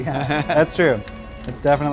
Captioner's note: laughing